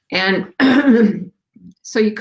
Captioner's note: clears throat